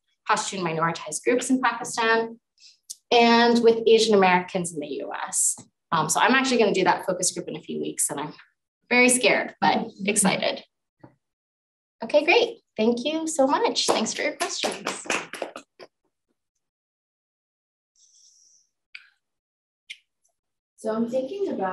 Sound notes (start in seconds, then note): 14.4 audience applauding